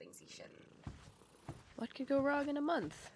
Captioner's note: footsteps receeding